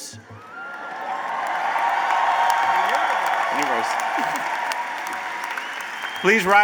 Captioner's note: cheers and applause